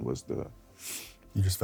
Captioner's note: sniffles